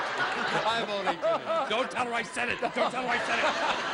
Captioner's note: laughter